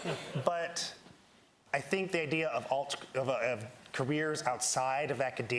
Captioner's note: laughter